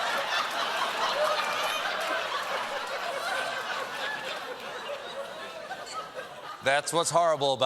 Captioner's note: laughter